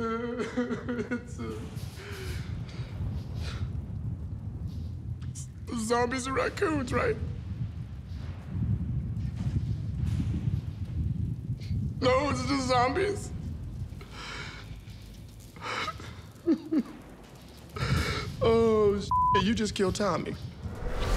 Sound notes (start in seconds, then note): 8.9 thunder rumbles softly; 15.8 electricity crackles; 15.8 thunder rumbles; 19.1 beep